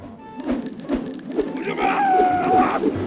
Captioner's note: screaming